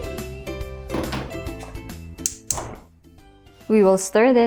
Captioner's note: sauce pan thuds; stove knob clicks